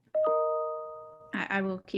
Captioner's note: ding